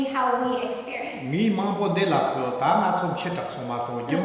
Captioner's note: speaking tibetan